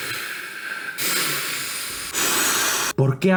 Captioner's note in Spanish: Resoplidos; resoplidos duros